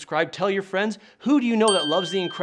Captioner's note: bell dings